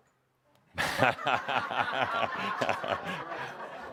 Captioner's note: much laughter